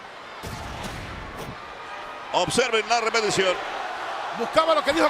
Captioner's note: applause